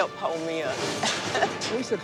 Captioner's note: laughs